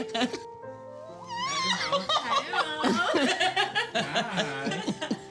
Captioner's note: all laughing